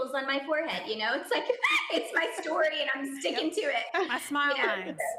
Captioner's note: laughing